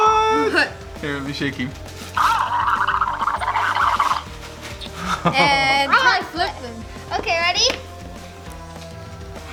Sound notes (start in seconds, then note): 2.2 toy babbles